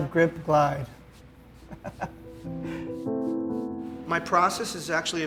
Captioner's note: laughs